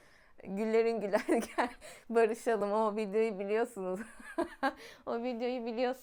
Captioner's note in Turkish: kahkaha